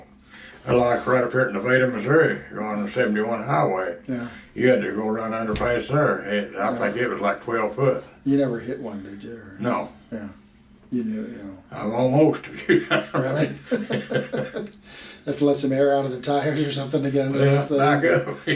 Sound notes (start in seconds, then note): 12.5 laughs; 14.9 both laugh